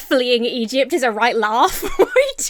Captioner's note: Emma laughs